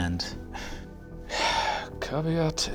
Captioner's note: sighs